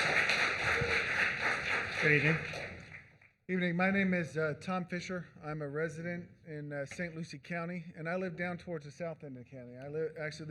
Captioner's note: applause